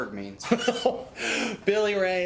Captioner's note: Randall laughs